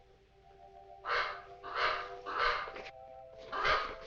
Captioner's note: bird cawing